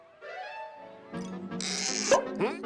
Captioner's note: popping noise